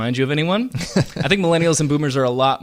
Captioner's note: chuckles